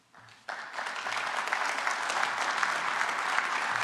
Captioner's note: applause